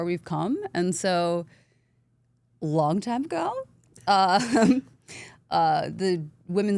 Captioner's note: laughs